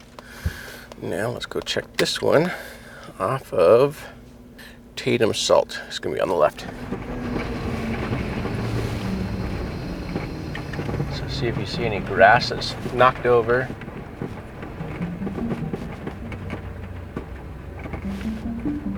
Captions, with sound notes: Now, let's go check this one off of Tatum Salt. It's gonna be on the left. (vehicle rattling) So, see if you see any grass that's knocked over. (suspenseful music continues)